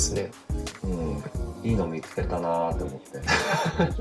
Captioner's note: laugh